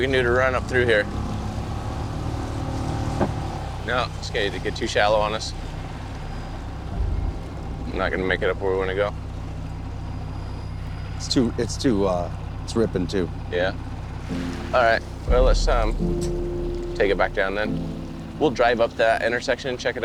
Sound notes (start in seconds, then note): 1.7 boat engine revs; 2.7 water sloshing gently